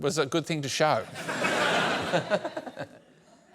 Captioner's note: laughter